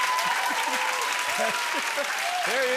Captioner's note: laughs